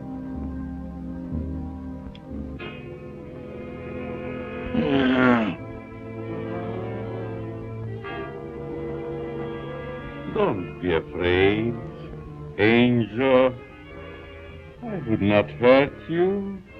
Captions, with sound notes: (foreboding music) (grunts) - Don't be afraid, Angel. I would not hurt you.